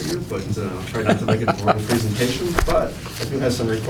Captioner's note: laughter